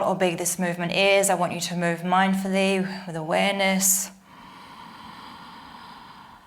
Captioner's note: inhales